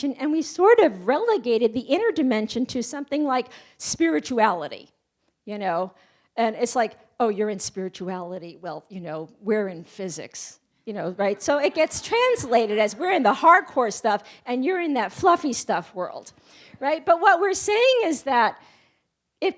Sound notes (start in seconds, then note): 11.3 audience laughs